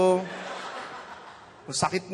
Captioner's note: laughter